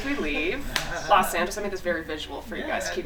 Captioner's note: group laughing